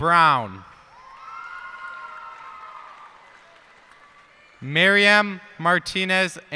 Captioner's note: cheers and applause